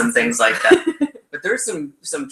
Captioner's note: laughs